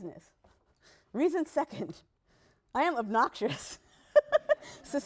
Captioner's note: laughs/laughter